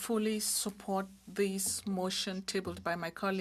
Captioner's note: speaking french